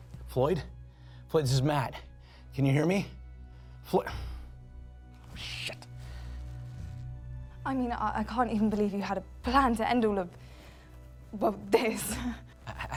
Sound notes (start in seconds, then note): none